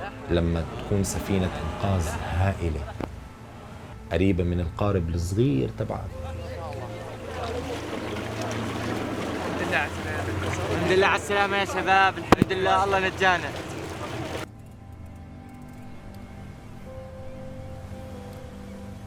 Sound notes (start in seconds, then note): 7.1 indistinct chattering; 7.2 waves crash; 17.0 gentle music